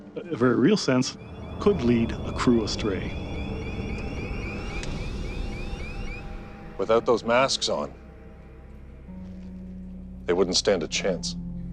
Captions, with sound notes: a very real sense could lead a crew astray. (alarm continues unabated) - Without those masks on, they wouldn't stand a chance.